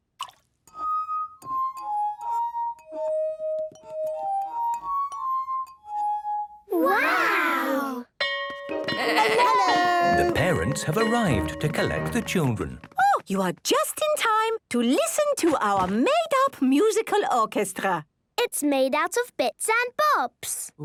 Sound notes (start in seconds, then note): 0.0 water drips; 0.7 glasses vibrate melodically; 8.2 bell ringing